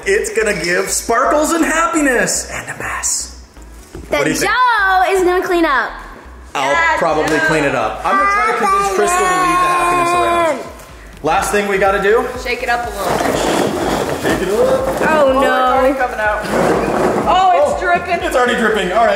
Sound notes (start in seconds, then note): 12.8 pinata rattling